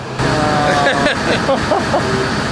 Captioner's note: laughter